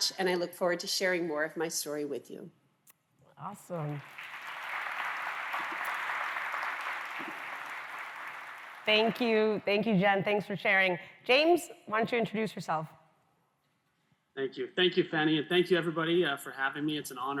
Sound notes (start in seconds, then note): 3.6 applause